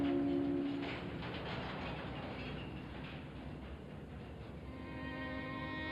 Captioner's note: city street sounds; melancholy music